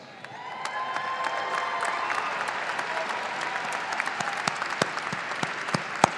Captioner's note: audience applauding and cheering